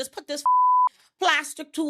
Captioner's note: beep